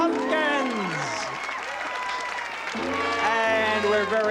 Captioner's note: applause